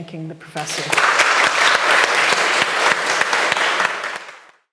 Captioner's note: audience clapping